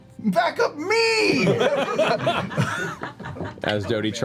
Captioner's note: laughter